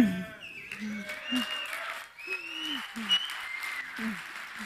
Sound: audience cheering

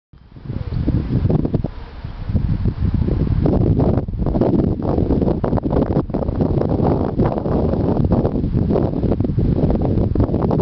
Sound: wind

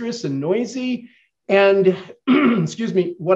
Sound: clears throat

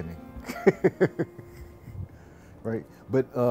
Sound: giggles

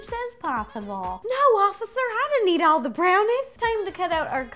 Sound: southern belle accent

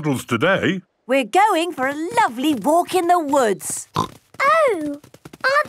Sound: snorting

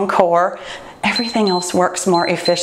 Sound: timer beeps

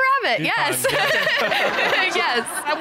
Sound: audience laughing; chuckles

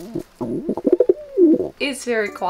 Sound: Toby Cooing

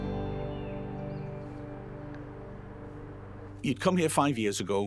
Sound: folk music; birds chirping

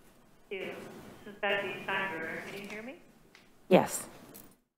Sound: soft Voice

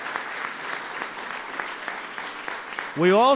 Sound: applause

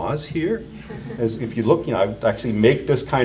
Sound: audience chuckles

